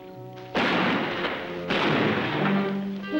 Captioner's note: gunshots